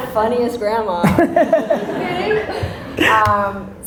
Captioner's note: Gary laughs